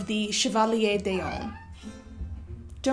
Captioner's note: Mila meows